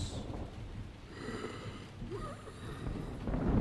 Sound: heavy breathing

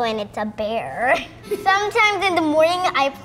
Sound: laughs

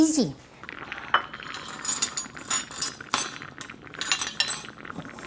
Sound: sizzling

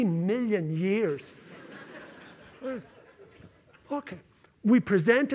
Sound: laughter

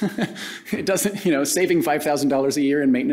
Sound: laughs

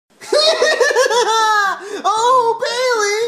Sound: laughs

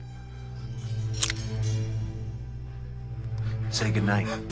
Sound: gun cocking

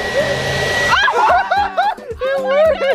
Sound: vacuum sucking; all exclaiming; laughs

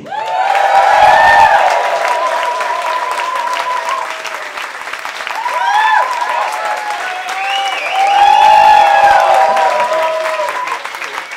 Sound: cheering and applause

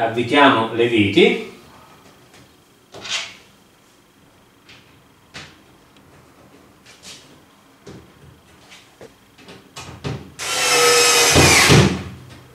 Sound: work tools noise

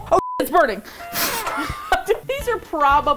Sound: sad horn sound

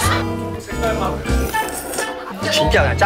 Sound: Jjajangmyeon sound

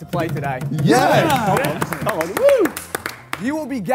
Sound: Sidemen cheer

